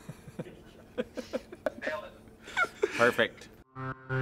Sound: laughter

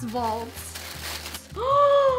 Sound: paper rustling; gasps

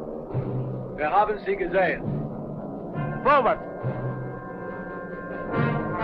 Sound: speaking in a foreign language

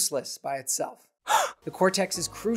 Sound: gasp!

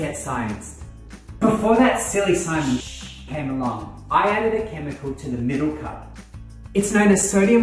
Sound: shhh

